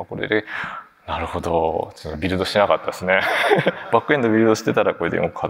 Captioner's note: laughs